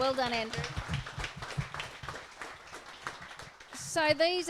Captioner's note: audience applause